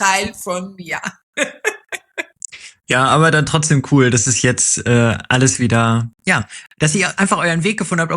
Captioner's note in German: gelächter